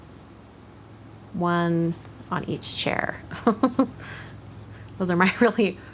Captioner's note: giggles